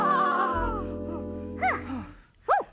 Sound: both exhale

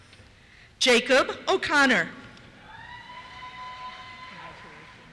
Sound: cheers

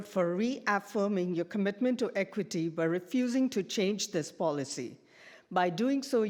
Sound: none

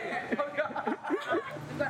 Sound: laughs

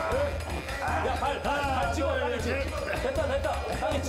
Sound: struggling

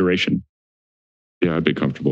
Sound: silence

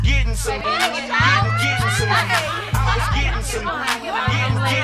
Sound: women chatting

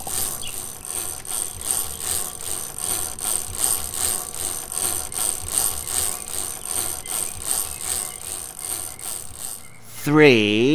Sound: chain cranking

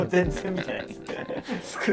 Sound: laughing

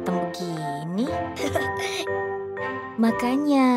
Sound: laughing

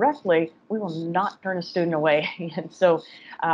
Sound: laughs

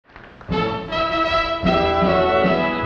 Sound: applause, music begins

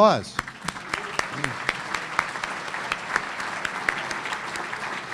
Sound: audience applauding

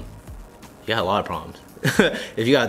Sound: laughs

